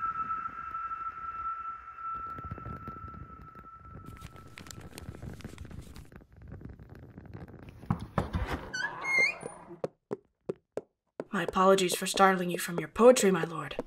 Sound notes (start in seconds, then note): 7.8 knocking; 8.3 door opens; 9.5 footsteps